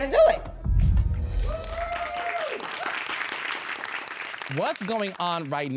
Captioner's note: audience applauding